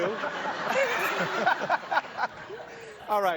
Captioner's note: laughter